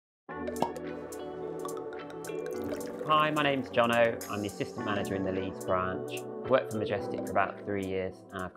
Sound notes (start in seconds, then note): 1.6 drink pouring and bubbling